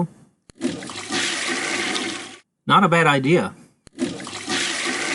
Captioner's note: flushing sound